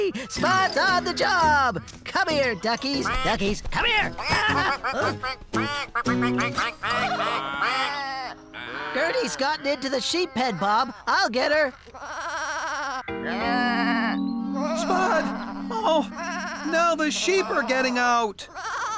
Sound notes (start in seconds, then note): 6.0 quacking; 7.2 bleating; 11.7 bleating